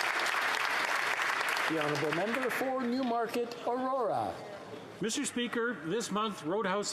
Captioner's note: applause